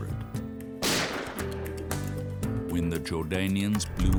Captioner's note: firing